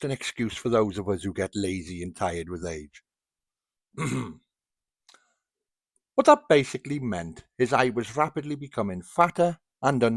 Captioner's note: ahem